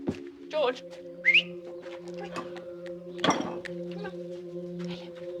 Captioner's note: whistles